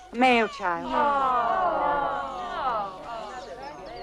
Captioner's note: crowd groans; crowd chattering